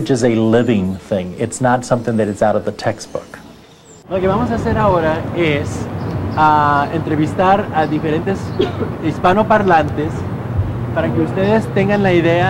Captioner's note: students speaking Spanish